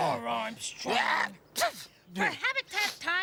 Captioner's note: sneeze